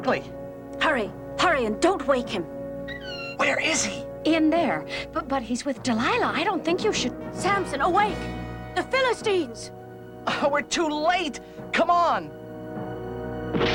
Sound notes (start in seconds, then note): 2.8 door creaks